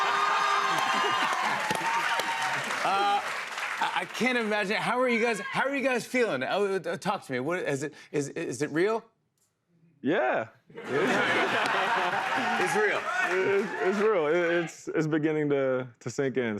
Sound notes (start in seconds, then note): 0.0 cheers and applause; 10.8 laughter